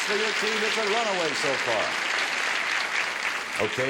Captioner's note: audience applauds